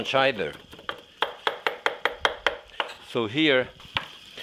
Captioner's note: Jacques chopping